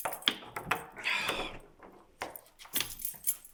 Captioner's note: keys clanging; Jacob sighs